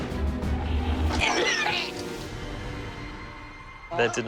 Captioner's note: vomiting